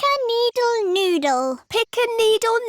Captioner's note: none